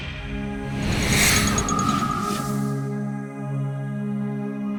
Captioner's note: graphic whooshes